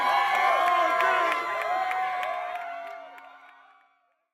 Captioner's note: people Cheering